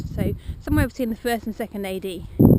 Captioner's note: birds